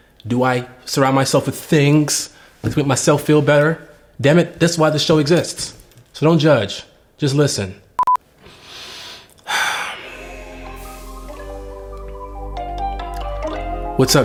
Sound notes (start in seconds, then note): 8.4 deep breathing; 9.9 light music